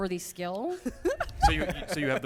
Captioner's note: laughter